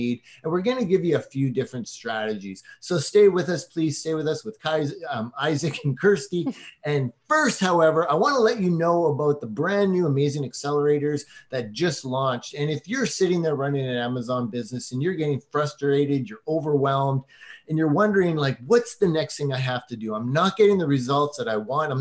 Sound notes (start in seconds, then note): 5.5 chuckling